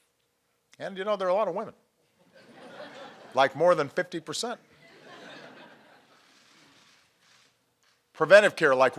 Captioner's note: laughter